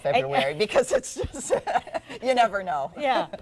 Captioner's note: laughs